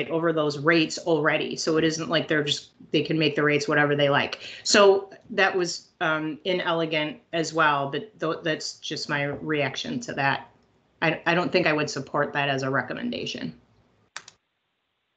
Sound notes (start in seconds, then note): none